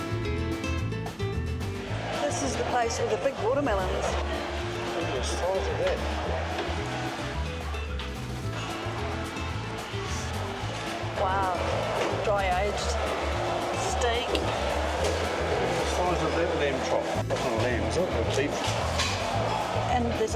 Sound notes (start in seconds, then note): 10.2 knocking; 13.5 crowd noise